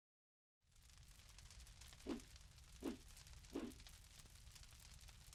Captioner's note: fire crackles